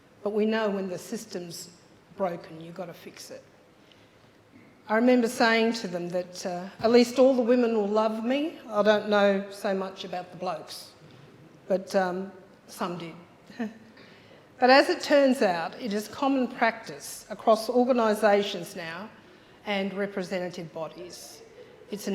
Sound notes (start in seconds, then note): 13.4 chuckles